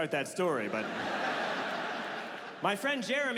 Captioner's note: audience laughs